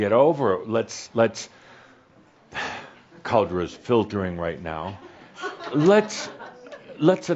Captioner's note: he sighs